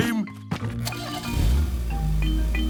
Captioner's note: engine starting